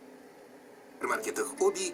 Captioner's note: further, the sound of television channels